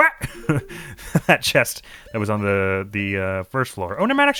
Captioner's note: snickers; laughing